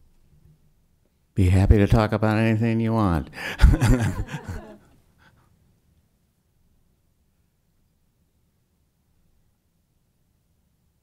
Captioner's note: brief laughter